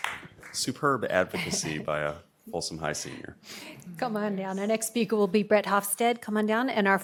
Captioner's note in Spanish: aplausos